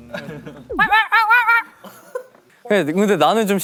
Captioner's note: trying to communicate in dog language